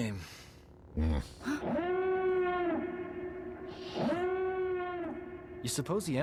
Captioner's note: grunting